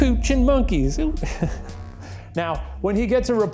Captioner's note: chuckles